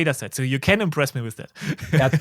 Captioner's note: chuckles